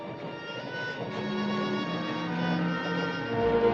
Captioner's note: train clacking